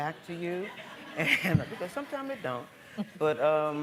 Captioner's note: laughing